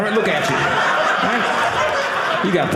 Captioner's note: audience laughing